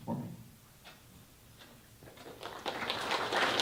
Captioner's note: applause